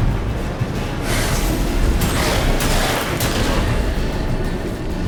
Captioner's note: hound hisses